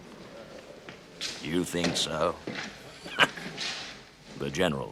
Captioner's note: laughs